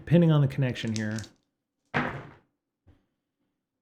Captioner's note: door slams